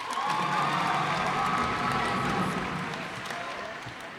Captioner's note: cheers and applause